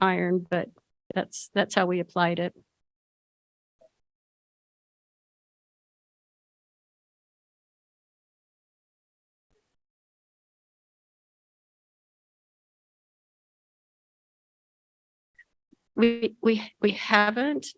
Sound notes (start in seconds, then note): 3.8 no sound